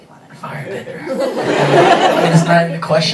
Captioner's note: audience laughing